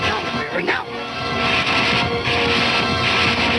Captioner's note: gunshots